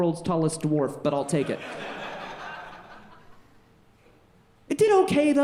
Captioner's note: audience laughing